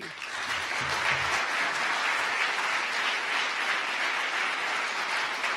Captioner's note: audience applause